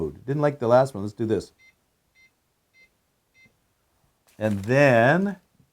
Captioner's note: powerbolt beep lowly